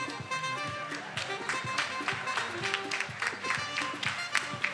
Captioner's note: attendees applauding